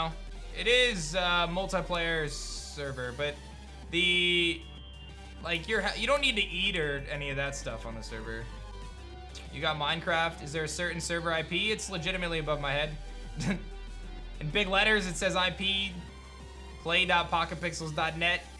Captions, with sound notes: It is multiplayer server, but the... Like you don't need to eat or any of that stuff on the server. You got Minecraft. Is there a certain server IP? It's legitimately above my head. (chuckles) In big letters, it's says IP Play.PocketPixels.net